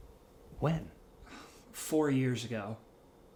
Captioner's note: sighs